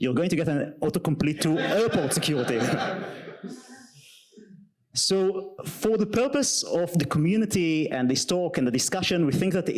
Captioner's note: audience laughter